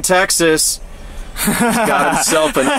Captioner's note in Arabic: يضحك